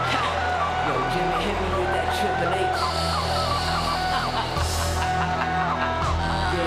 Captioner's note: laughing